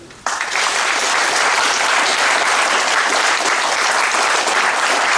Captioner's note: audience applauding